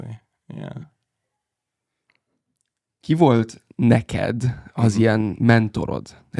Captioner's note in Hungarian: idegen nyelven beszélve